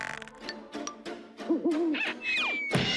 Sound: hoots

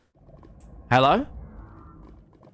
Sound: Elder Guardian noises

